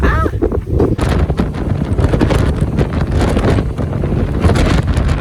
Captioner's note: laughing; wind swooshing